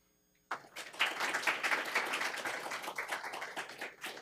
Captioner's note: attendees applauding